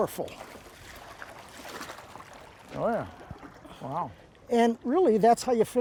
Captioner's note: water splashing